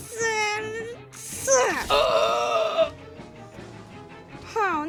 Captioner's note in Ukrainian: крик хеві від болі